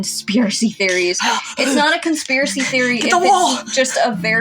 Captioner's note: feral Noises